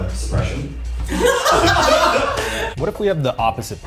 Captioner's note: audience laughing